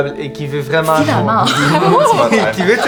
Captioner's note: laughter